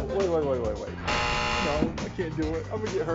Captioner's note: buzzer buzzes